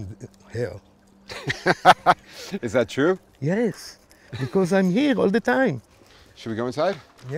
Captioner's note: laughter